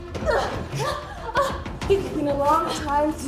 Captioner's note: both grunting